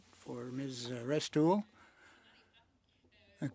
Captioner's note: speaking French